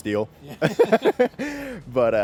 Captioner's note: laughing